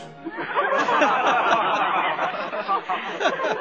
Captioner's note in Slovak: smiech